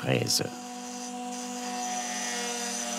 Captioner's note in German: Schleifgeräusche